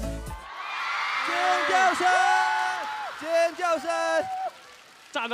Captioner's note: audience screaming